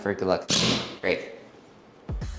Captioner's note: drill whirring